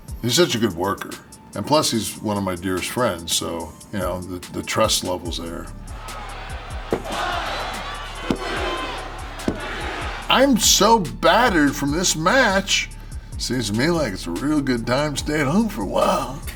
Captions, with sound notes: He's such a good worker and plus he's one of my dearest friends, so the trust levels there. >> [APPLAUSE] >> I'm so battered from this match. Seems to me like it's a real good time staying at home for a while.